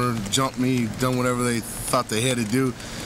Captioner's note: none